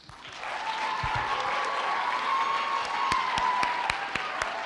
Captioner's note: applause